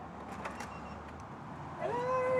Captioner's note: beeping